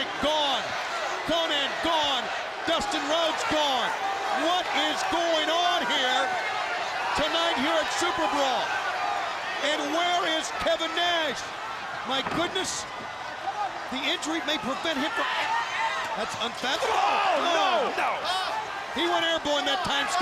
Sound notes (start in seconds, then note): 15.3 crowd chatter